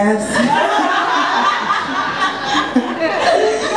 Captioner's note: audience laughs